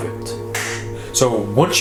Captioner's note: claps